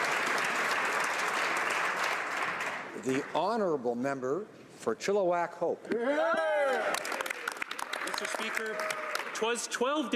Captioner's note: applause